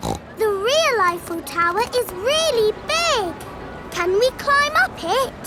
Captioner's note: snorts